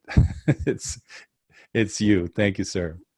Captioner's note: laughing